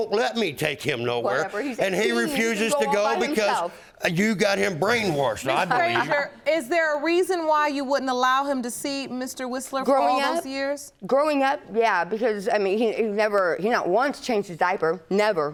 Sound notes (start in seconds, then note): 5.5 laughing